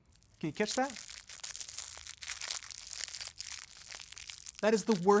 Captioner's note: scrunching